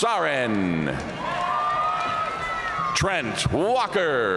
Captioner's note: audience cheering and applauding